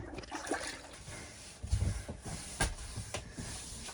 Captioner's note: sloshing Water; scrubbing